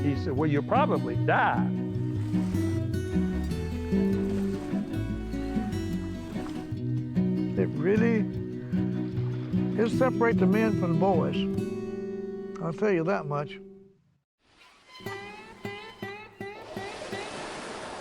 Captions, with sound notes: happen? And he said, Well, you're probably die. It really it'll separate the men from the boys. I'll tell you that much. (doors creaking) (water flowing)